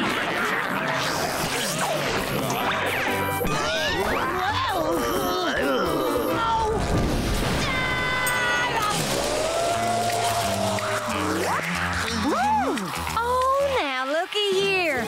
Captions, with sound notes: Whoa! [groaning] No! [screaming] Woo, oh now lookie here.